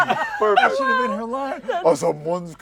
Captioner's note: laughter